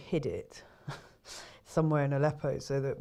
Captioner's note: chuckles